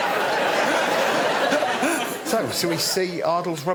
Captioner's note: laughter